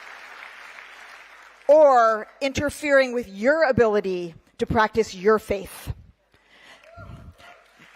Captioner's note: cheering